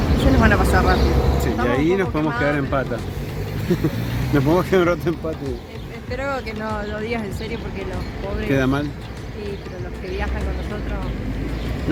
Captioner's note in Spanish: risas